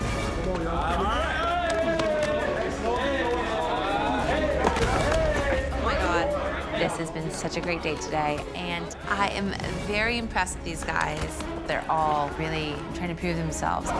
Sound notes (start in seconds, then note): 3.0 crowd shouting